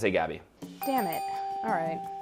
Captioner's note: dinging